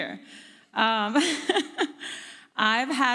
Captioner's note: laughs